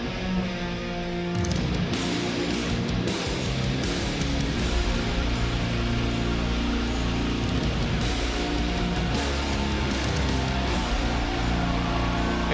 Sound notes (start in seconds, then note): 8.7 audience cheers